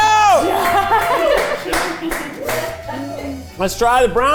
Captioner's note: cast cheering